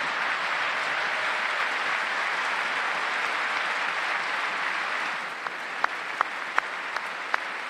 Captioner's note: applause